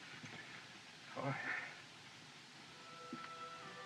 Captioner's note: sighs